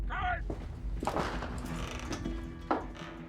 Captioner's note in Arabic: صرير الباب، أرجوحة